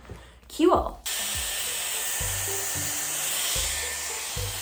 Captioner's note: brush whirring